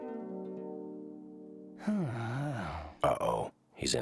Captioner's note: sighing